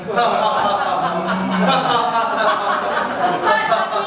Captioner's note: laughter